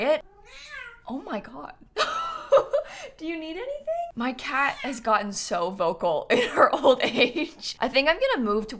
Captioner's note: meow